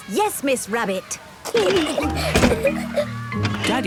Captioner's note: giggling